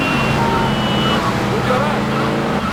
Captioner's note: tires screeching